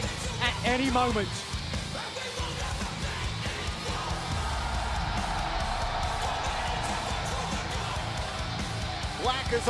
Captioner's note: crowd cheering